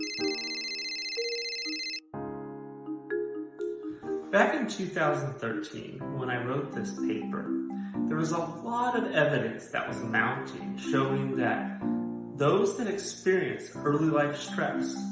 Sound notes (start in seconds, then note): 0.0 phone ringing